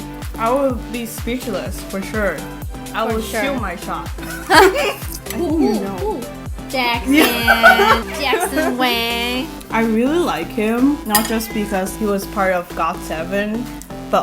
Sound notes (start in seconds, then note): 4.2 laughs